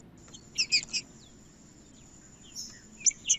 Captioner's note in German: trinca ferro cantando